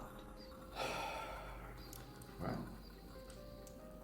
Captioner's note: heavily sighing